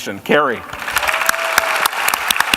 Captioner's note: applause